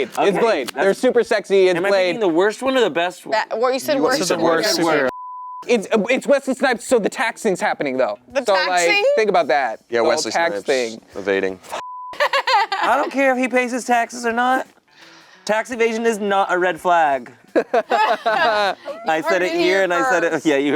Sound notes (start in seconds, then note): 5.0 beep; 11.8 beep; 12.1 laughing; 17.5 laughing